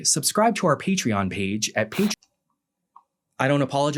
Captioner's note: TV static